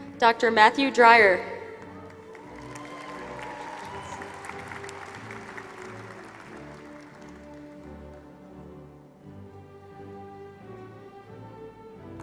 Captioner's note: applause